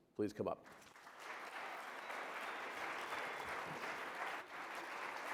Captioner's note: audience applauds